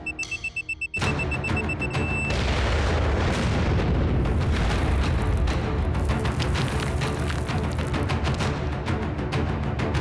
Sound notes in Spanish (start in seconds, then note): 0.0 bips continuos; 5.4 explosión